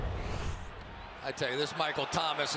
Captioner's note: swoosh